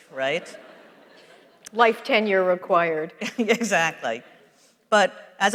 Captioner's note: laughs